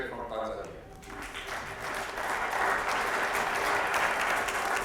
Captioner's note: crowd applauding